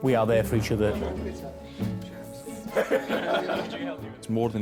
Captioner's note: crew chat and laugh